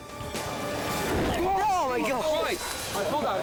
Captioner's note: flames whoosh; all shouting